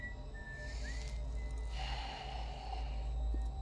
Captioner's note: sighs